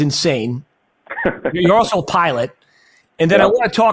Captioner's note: laughs